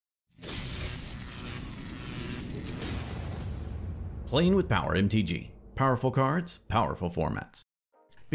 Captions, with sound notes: [Electricity Buzzing] Playing with Power MTG, powerful cards, powerful formats.